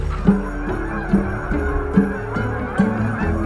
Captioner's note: geese honking